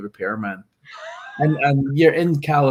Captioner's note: laughing